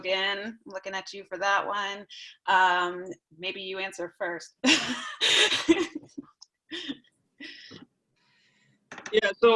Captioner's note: laughter